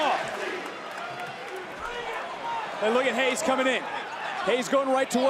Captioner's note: applause